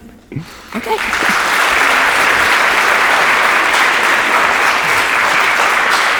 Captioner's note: audience applauding